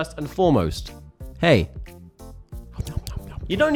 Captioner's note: mouth noises